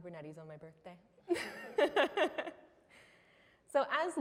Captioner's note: laughter